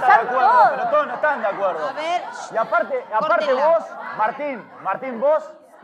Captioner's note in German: Rufe, Diskussion